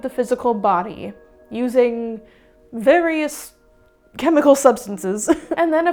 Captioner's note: laughs